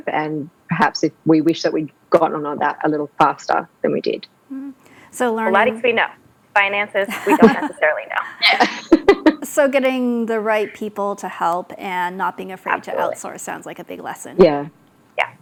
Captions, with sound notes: and perhaps if we wish that we'd gotten on that a little faster than we did. So learning- Pilates, we know. Finances, we don't necessarily know. (all laugh) So getting the right people to help and not being afraid to outsource sounds like a big lesson. Yeah.